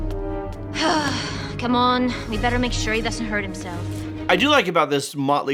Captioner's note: sigh